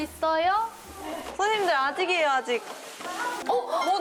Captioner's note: rushed